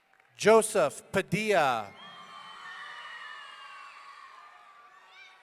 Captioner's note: audience cheering